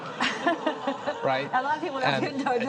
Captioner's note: audience laughs